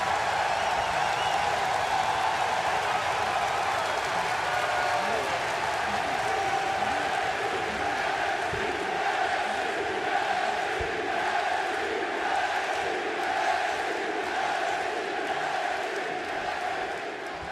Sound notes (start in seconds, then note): 0.3 crowd cheering; 3.6 crowd chatter